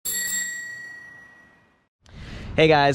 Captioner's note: ringing